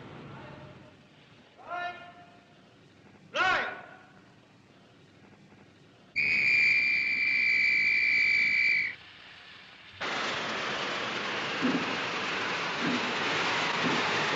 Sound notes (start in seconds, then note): 6.1 whistle blows